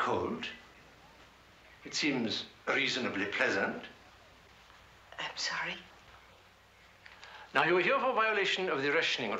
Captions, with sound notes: [soldiers marching in the distance] ARE YOU COLD? IT SEEMS REASONABLY PLEASANT.